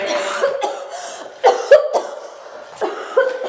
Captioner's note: coughs